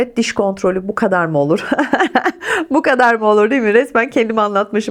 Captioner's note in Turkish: kahkaha